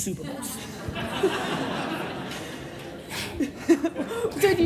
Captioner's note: audience laughing